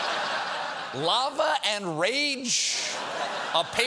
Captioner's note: laughter